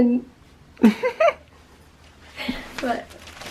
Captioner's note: both chuckling